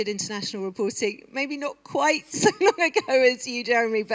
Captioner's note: laughter